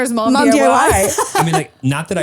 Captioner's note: laughs